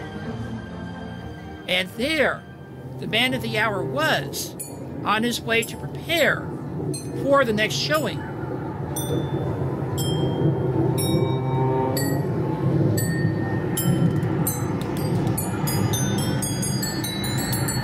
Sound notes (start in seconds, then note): none